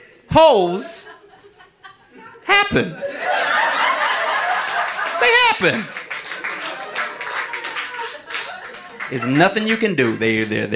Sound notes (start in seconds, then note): 3.0 audience laughing; 6.7 audience applauding